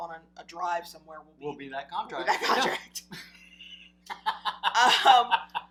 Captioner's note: laughing